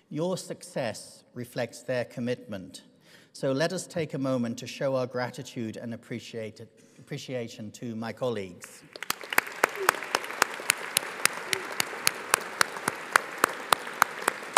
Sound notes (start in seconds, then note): 8.8 audience applauds